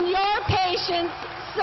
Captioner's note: applause